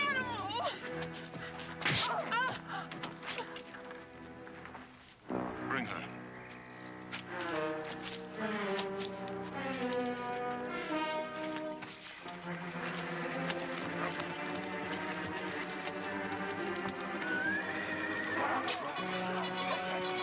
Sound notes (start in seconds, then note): 2.3 Carrie groaning; 2.3 hand smacking; 7.8 dramatic music; 15.9 dramatic music